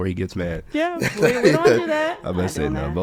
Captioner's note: laughs